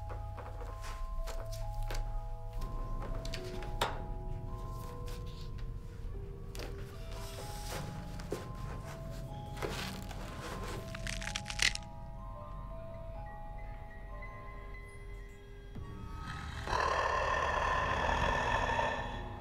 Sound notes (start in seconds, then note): 10.7 bones cracking; 16.2 mummy snarling